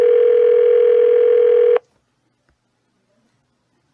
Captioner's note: phone still ringing